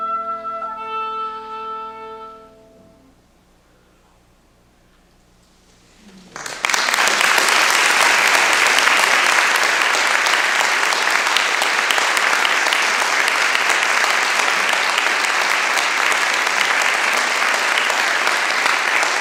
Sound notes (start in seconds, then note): 6.3 applause